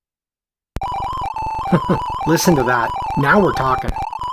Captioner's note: chuckles